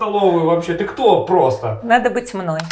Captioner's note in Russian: закадровый голос